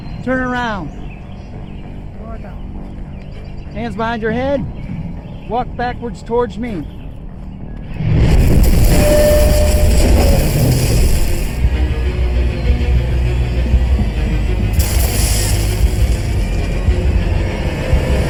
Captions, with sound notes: - Turn around. Hands behind your head. Walk backwards towards me. (electricity buzzing) (dramatic music) (electricity buzzing)